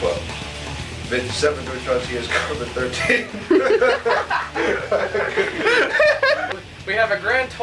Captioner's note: laughter